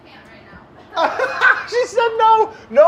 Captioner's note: laughing